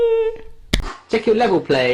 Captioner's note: hand slapping